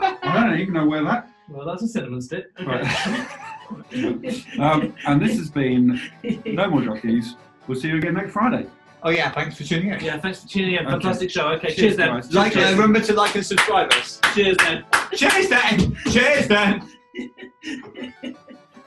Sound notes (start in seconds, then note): 2.7 laughter; 13.1 applauding; 17.2 giggling